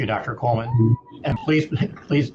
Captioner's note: participants cheer